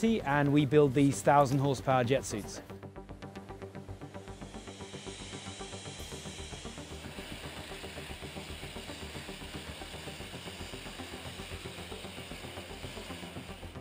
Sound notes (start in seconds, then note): 3.8 air whooshing; 4.6 upbeat music